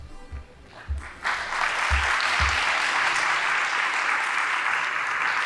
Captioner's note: band playing; audience applauding